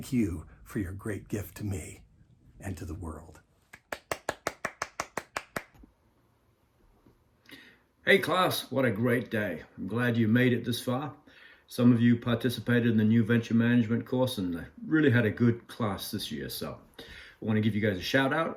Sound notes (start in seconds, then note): 3.7 clapping